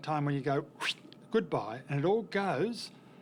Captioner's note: makes Whooshing Sound